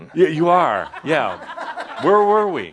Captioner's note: some laughter